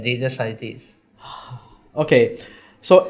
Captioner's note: sigh